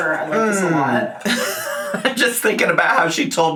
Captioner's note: laughs